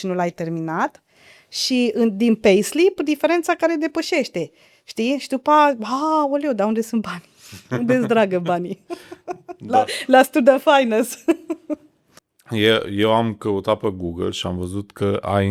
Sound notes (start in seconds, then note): 7.6 laughter